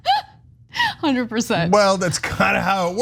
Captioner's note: laugh